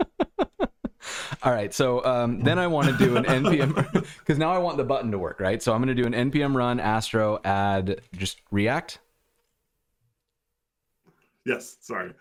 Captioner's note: laughter